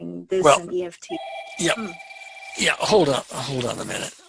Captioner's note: phone rings